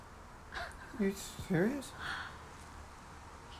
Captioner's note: Laura chuckles